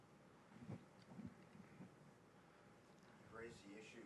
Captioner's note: microphone rustling